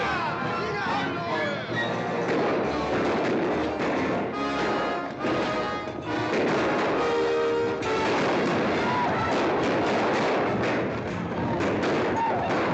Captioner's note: gunshots